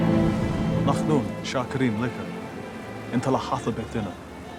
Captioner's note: Hebrew spoken audio